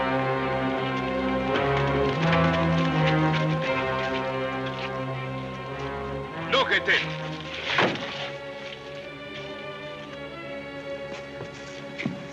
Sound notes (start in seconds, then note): 0.0 sinister music; 6.3 shouts command; 8.8 soft sinister music